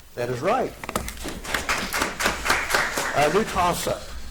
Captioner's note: audience applauds